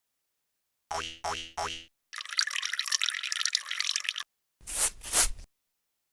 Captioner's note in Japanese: 犬の足音・オシッコをする音・砂をかける音